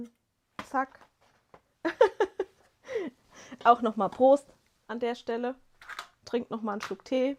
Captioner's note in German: gelächter